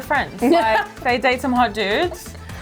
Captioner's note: laughing